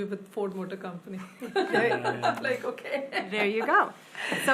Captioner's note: laughs